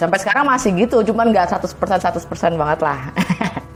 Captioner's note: laughing